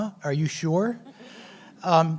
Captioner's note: laughs